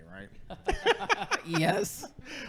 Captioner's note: laughing